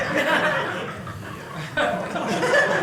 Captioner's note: audience laughing